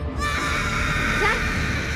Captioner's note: screaming